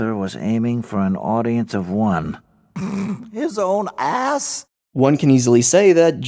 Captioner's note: snorts